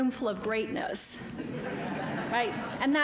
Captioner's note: audience laughing